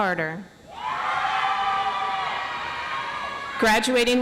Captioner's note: audience applauds